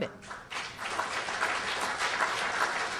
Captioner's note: applause